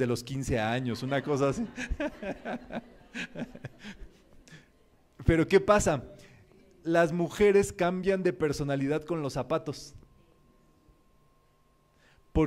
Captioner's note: laughs